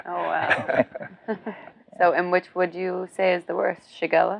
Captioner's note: chuckles